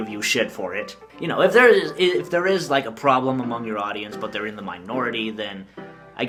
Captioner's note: stutters